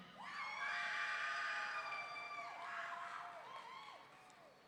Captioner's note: audience members screaming